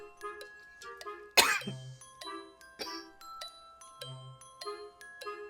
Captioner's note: light coughing